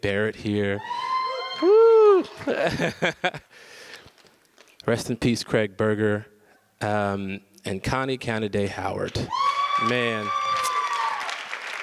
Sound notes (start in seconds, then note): 0.8 audience cheers; 2.2 laughs; 9.2 audience cheers